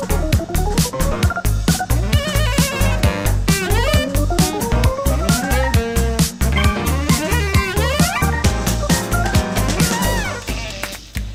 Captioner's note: kissing noises